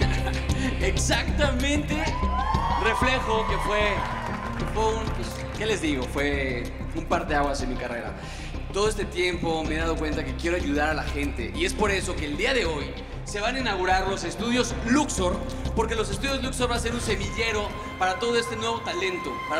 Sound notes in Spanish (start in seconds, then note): 4.5 Ríe